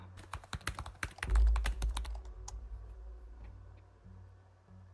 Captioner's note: keyboard clacking